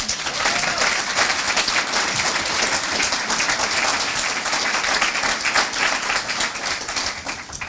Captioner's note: applause